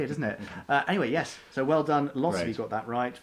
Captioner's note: laughs